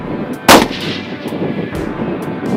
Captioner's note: gun Shot